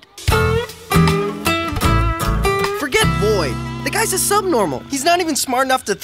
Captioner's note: none